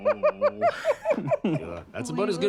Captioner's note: laughs